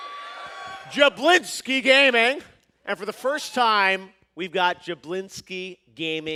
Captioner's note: cheers and applause